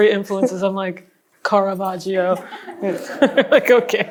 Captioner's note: laughs